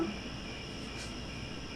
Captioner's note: crickets